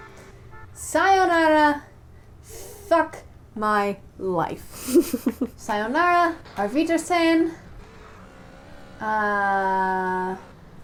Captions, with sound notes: Sayonara. Fuck... my... life. Sayonara. (GERMAN) Auf Wiedersehen. Uh...